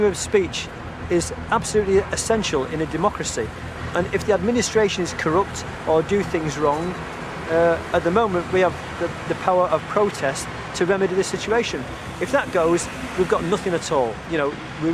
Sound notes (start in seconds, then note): none